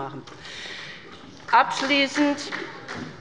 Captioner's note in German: Beifall bei der SPD